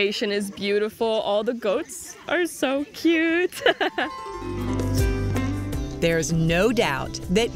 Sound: laughs

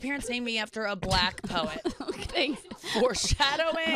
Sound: laughing

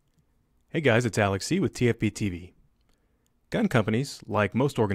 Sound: voiceover

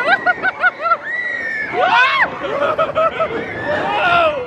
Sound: guests screaming joyfully

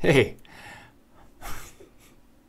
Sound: laughs in defeat

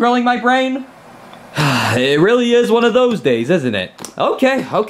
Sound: sighs deeply

